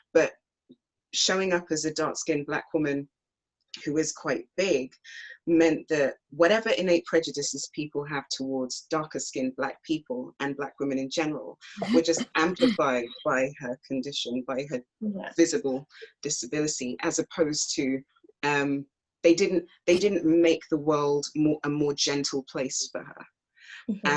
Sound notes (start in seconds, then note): 12.2 clears throat